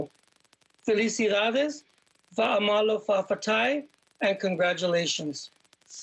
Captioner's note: speaking in foreign language